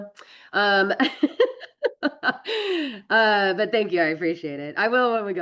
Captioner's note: laughs